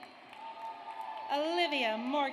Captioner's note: audience cheers